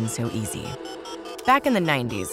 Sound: dial up modem beeps

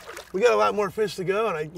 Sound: fish splashing

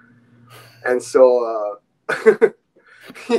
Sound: laughing

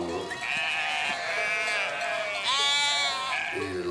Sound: sheep bleating

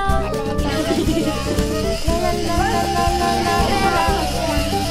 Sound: robotic whirring

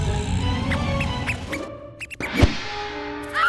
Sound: mouse squeaks

